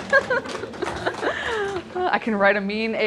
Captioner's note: applause